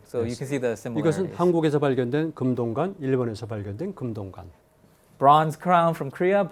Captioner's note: speaking in Korean